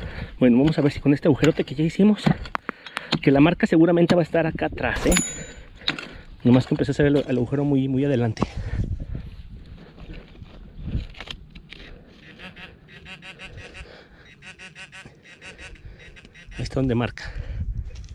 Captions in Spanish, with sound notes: bueno, vamos a ver si con este agujero que hicimos, que la marca va a estar aquí atas, solo que empecé a hacer el agujero muy adelante (sonidos del bep y vibración del pin pointer) ahí esta donde marca